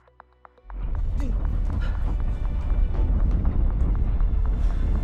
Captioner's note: house trembling